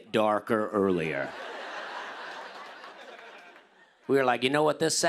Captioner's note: laughter